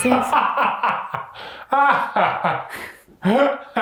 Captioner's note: laughing